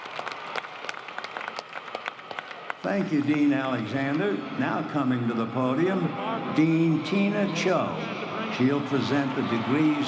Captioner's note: applause